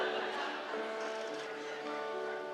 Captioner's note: laughter